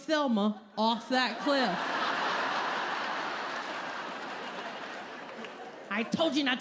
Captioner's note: laughter